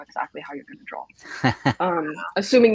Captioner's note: laughs